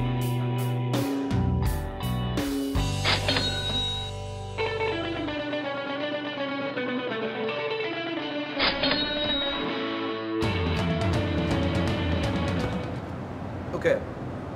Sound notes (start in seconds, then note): 4.8 cash register ringing; 7.3 guitar soloing